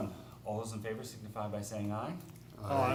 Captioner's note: chorus of ayes